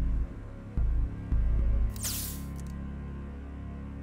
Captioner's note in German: Hypospray zischt